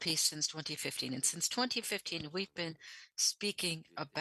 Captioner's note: speaking French